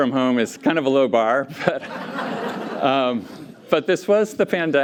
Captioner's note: laughter